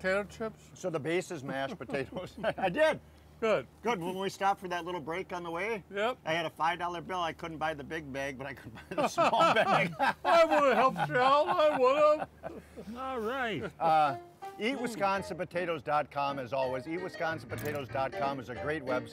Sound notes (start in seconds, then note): 1.4 both laughing; 8.8 both laughing; 14.0 upbeat music